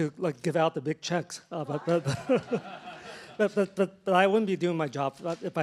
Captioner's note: laughter